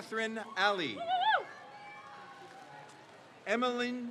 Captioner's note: crowd cheers